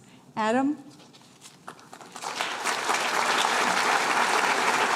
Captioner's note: applause